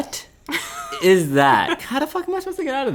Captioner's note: laughing